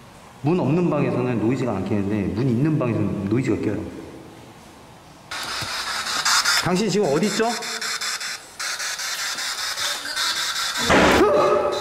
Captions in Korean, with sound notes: 문 없는 방에서는 노이즈가 안끼는데 문 있는 방에서는 노이즈가 껴요 당신은 지금 어디에 있지요? (문닫히는 소리) 쿵! 으으흐허..